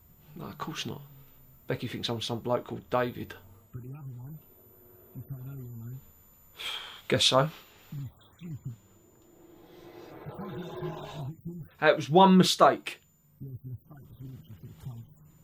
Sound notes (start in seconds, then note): 6.1 sighs